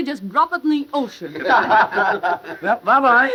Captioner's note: all laughing